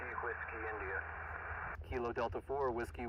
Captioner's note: radio static hissing